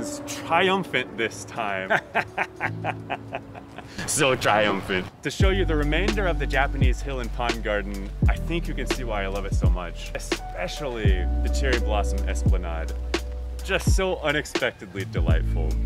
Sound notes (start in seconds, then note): 1.8 laughter; 4.5 with distortion